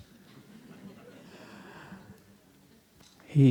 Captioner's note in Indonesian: Suara tertawa